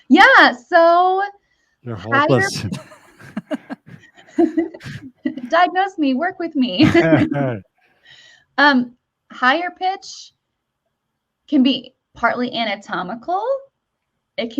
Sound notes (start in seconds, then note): 1.9 all laughing